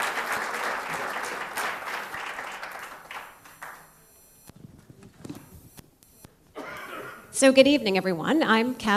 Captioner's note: applause